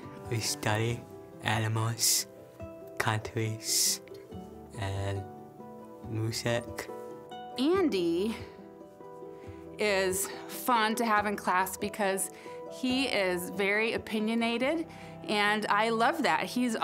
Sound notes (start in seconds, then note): none